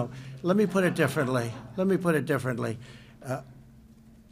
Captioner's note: laughter